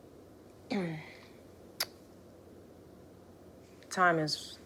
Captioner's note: throat clearing